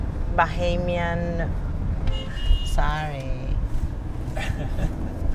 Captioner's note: car honk